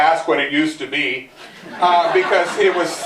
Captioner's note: laughter